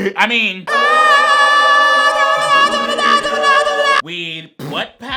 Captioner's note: angelic choir music; exclaiming